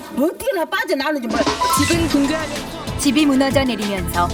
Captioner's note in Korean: 뉴스 사운드